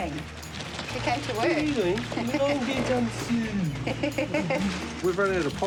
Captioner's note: laughs